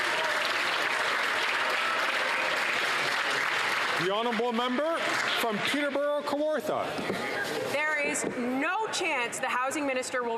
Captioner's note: applause